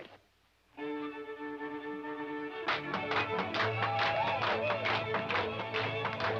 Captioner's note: lively fiddle music; rhythmic clapping